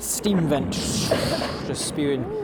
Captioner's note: bubble bubble